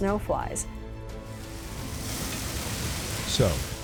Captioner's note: sound of flames expanding